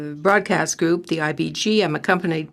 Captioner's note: speaking French